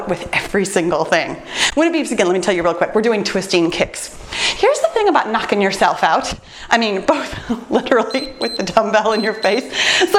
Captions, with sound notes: with every single thing. When it beeps again, let me tell you real quick. We're doing twisting kicks. Here's the thing about knocking yourself out. I mean both literally (laughs) (timer beeps) with the dumbbell in your face.